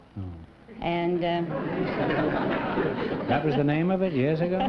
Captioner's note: laughter